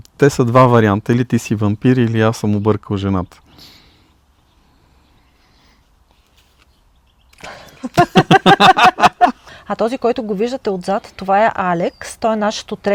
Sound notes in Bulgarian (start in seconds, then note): 7.5 смях